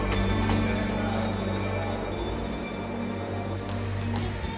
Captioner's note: beeping